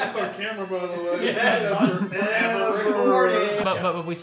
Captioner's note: people chattering